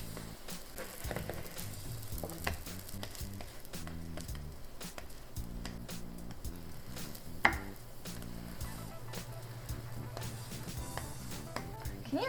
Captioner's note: more sizzling